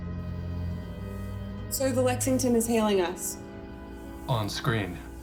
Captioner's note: none